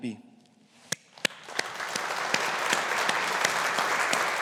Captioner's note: audience applauding